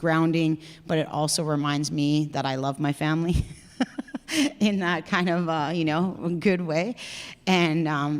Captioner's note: laughs